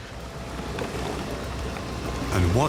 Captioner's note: plastic containers colliding